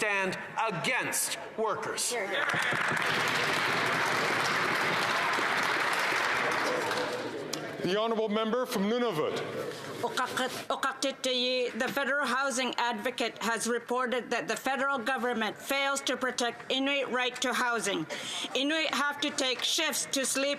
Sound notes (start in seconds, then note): 5.3 some Applause